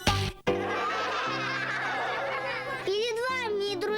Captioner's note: laughter